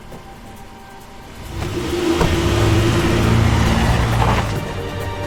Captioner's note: car engine revs; soft music